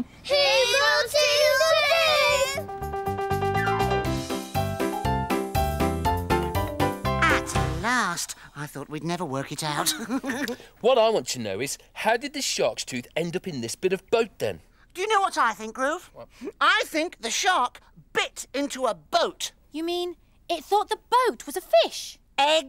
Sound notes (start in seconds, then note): 2.6 upbeat piano music; 9.7 laughs